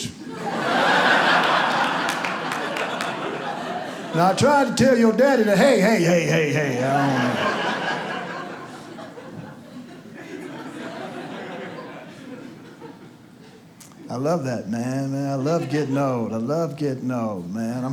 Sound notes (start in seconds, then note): 1.0 audience laughs; 7.8 audience laughs